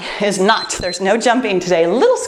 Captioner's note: timer beeps